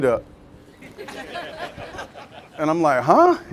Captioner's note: muted; all laughing